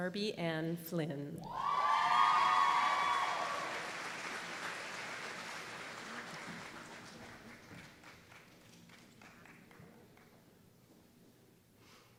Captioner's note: applause